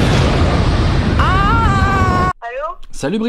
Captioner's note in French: explosion